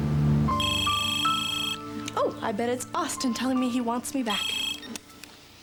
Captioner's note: telephone rings